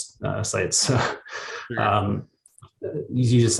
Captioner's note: chuckles